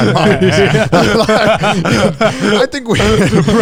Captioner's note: all laughing